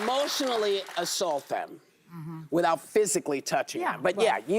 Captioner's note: applause